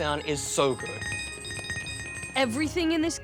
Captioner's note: coins tinkle